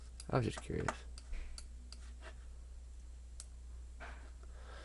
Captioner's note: clicking